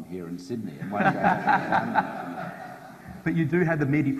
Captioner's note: audience laughs